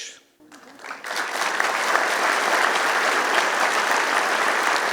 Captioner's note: applause